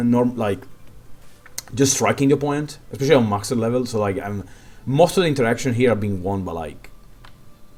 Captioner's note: hmm